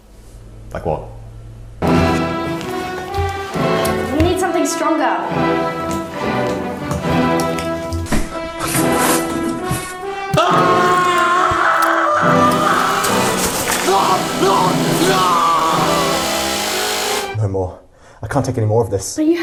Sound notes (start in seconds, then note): 12.8 chainsaw revving